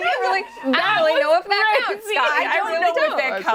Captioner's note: laughter